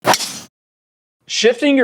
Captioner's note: ball strikes; loud whoosh